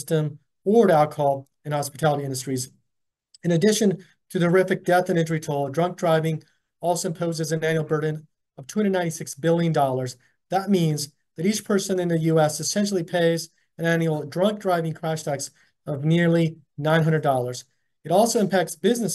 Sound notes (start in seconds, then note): none